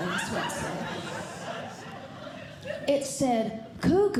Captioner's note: audience Laughing